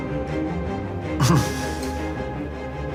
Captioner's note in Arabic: يضحك